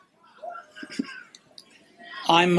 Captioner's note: chuckles